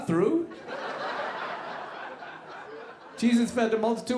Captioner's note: audience laughing